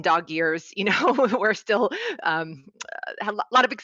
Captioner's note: laughs